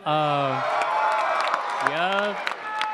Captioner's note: attendees applauding